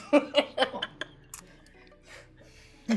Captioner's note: laughing